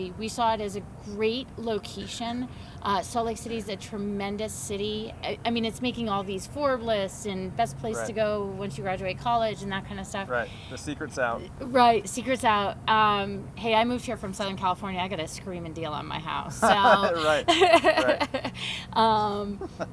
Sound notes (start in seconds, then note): 16.5 laughs